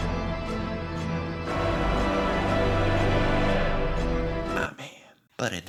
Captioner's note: big big choir simply shouting loudly